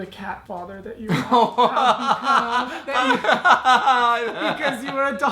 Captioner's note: laughs hysterically